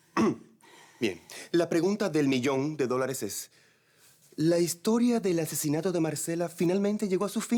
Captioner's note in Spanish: Carraspea